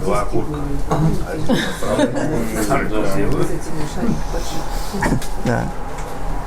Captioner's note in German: Lachen